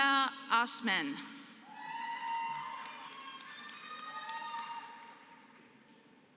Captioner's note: applause